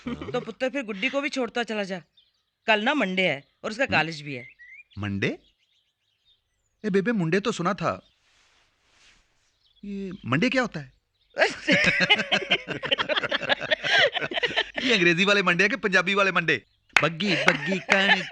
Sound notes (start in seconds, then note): 11.4 all Laughing